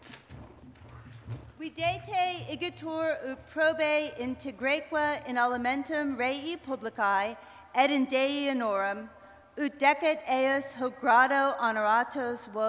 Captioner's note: speaking latin